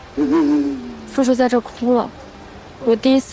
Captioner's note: Mr. Gao cried here